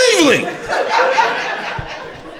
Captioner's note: crowd laughter